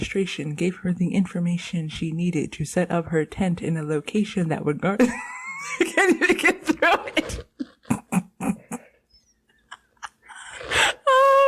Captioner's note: laughter